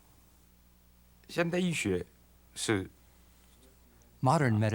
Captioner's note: non-english speech